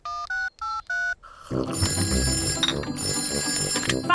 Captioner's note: dialing; phone rings